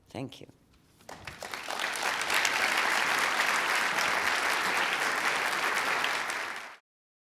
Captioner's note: applause